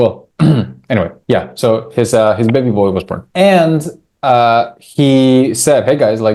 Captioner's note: clears throat